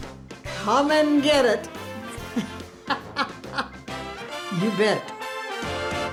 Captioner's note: laughing